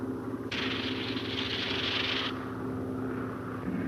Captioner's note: fuse fizzing